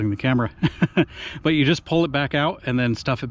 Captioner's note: chuckles